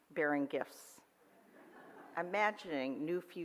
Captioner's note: audience laughs